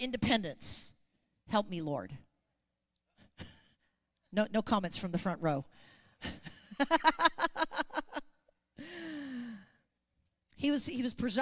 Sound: chuckles

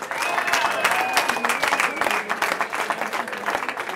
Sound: cheering

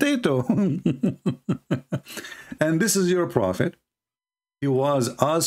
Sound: Ketawa

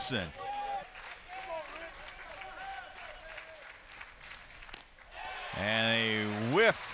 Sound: crowd clapping

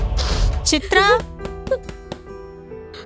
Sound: someone knocks on the door

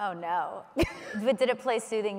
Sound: laughs

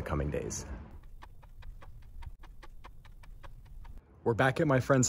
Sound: ticking Clock Noise

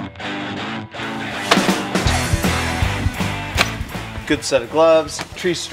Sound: thudding

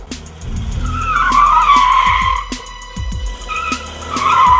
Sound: tires squealing

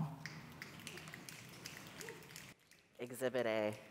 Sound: audience applauds

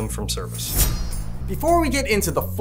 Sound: blade slicing

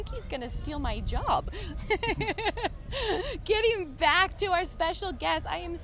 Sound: laughs

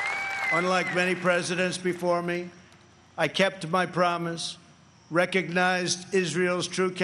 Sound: applause

